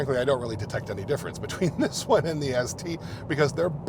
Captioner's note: chuckles